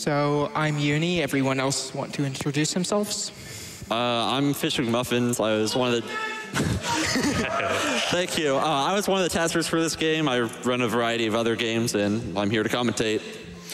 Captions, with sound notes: So I'm euni. Everyone else wants to introduce themselves? I'm fishmcmuffins. I was one of the... [LAUGHTER] Thank you. I was one of the testers for this game. I run a variety of other games, and I'm here to commentate.